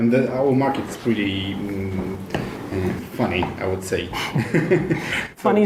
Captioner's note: laughs